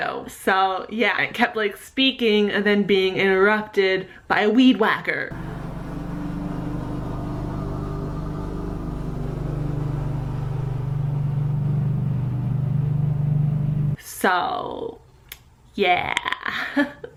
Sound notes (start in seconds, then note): 5.3 weed wacker noises